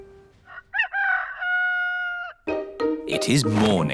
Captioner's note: rooster crowing